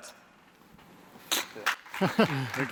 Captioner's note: applause